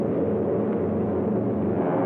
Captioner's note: shouting